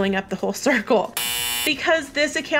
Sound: buzzer

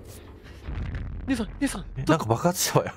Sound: exploding sound

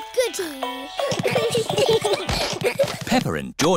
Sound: all giggling

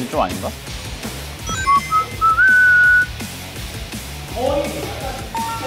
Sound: whistling after he's done

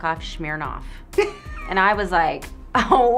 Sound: laughs

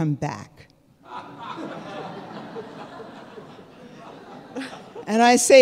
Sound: audience laughing

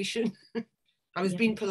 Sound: chuckles

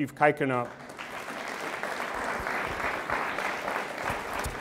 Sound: audience applauds

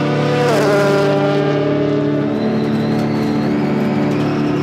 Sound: cars revving

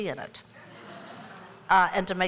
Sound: laughter

